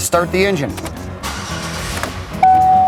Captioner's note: engine starts; seat belt fasten warning tone